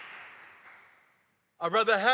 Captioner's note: applause